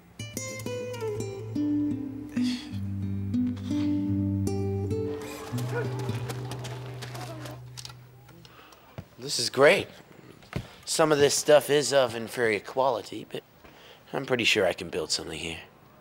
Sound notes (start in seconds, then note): 2.5 exhales through teeth; 5.0 footsteps crunch in dirt